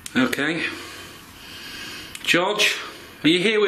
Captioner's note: none